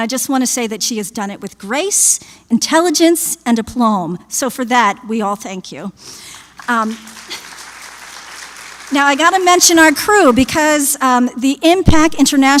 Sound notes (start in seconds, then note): 6.3 applause